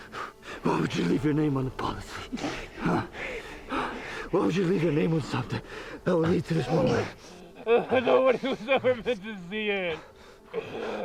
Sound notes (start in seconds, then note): 6.6 gasping